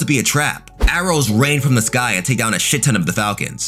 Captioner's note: air whooshing